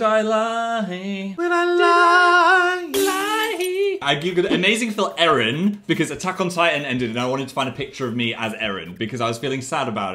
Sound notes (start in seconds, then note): 2.9 glass shatters